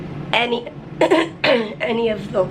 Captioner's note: clears throat